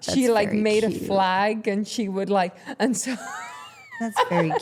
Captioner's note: chuckles